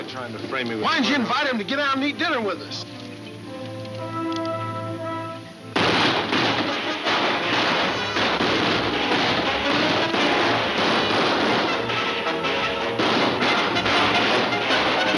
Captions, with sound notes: and eat dinner with us? (guns banging) (dramatic music)